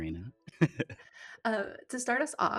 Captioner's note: laughing